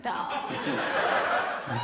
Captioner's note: laughter